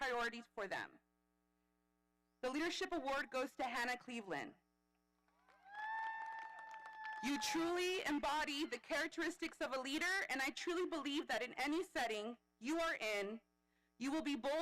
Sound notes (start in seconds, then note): 5.4 audience applauding; 5.4 audience cheering